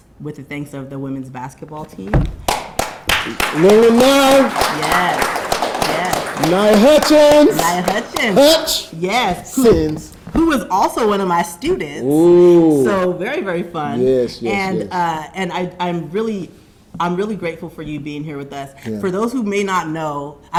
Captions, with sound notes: with the thanks of the women's basketball team. (Jamie applauding) (audience applauding) - Little Aaniya. - Yes. Yes. - Aaniya Hutchins. - Aaniya Hutchins. - Hutch! - Yes. - Since. - Who was also one of my students. (Jamie exclaiming) So very, very fun. - Yes, yes, yes. - And I'm really grateful for you being here with us. - Yeah. - For those who may not know,